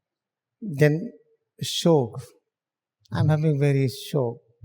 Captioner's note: mourning